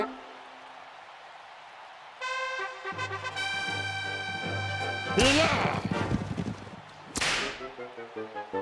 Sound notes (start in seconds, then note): 2.2 trumpets heralding; 7.1 whipping noise